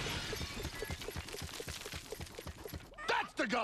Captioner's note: propeller rotates limply